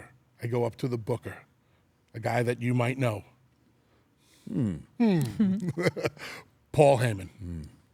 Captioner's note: laugh